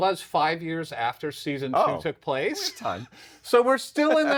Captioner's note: laughs